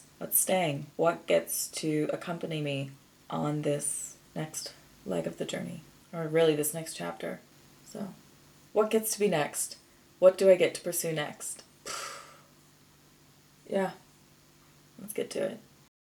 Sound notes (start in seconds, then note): 11.8 blows weak raspberry